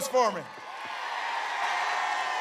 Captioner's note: applause